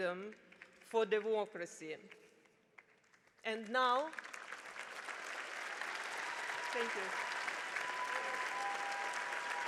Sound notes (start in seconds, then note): 4.0 attendees applauding